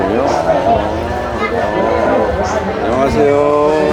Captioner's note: laughing